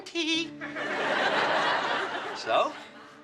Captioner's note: audience laughing